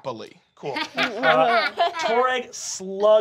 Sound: Fig laughs

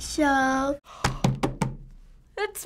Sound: gasping and thumping table

